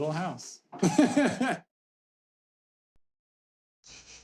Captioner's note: laughing